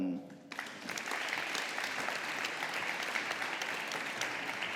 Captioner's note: audience applauding